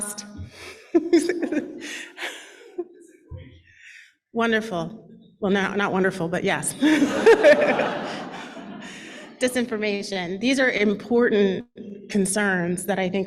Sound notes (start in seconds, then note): 0.5 laughs; 6.8 laughter